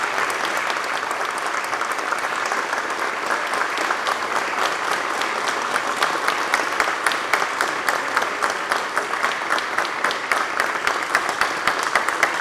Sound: applause

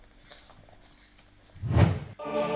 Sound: whoosh; choir music

